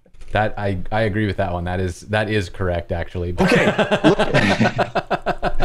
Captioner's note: laughter